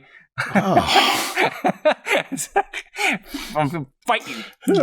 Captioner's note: laughter